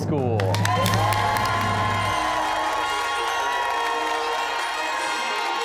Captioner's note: cheers and applause